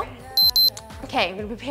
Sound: alarm beeping

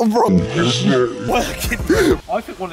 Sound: mocking laugh

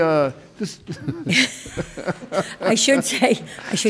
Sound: chuckling

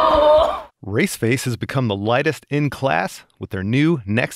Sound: voiceover

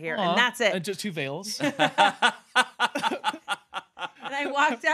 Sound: laughing

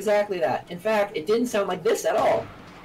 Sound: sniper shot

